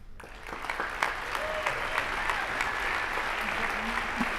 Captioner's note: applause